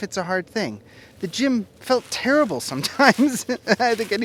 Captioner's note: laughs